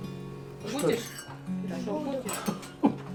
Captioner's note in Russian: звучат разговоры